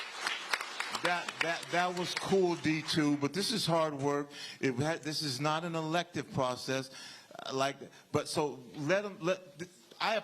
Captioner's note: applause